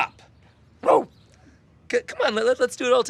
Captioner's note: rose barks